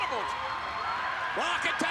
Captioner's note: spectators cheering